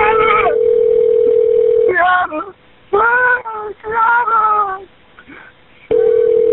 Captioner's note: dial tone ringing